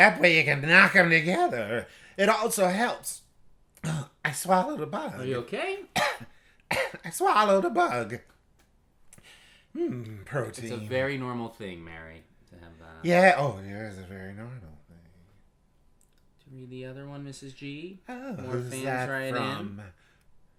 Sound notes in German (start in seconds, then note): 6.6 hust hust